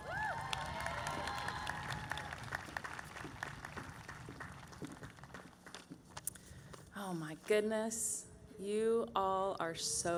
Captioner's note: cheering